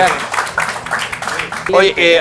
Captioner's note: applause